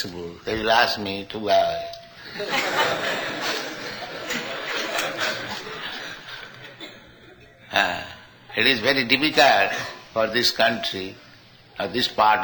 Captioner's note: laughter